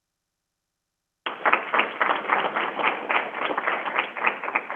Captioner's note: crowd applauding